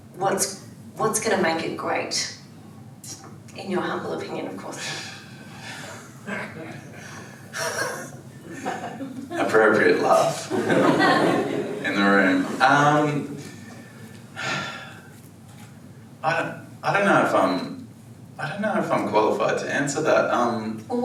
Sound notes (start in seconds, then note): 7.5 members laugh; 11.3 audience laughs; 14.3 sighs